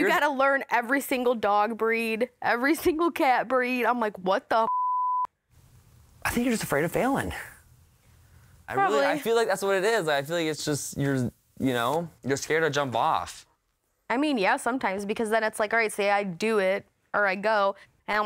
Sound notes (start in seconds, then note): 4.6 beep